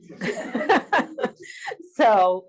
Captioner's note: audience laughs; laughs